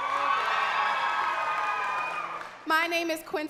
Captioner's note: crowd cheering and clapping